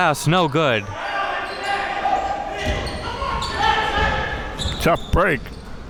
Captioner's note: coaches yelling